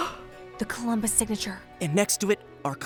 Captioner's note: gasps